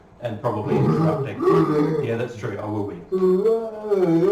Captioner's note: both laughed